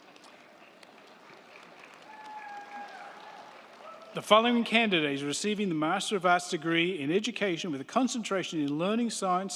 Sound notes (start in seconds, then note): 2.7 crowd cheering; 2.7 crowd clapping